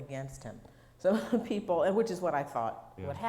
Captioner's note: laughing